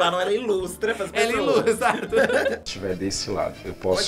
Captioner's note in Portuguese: risos